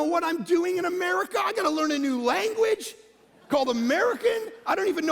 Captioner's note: congregation laughing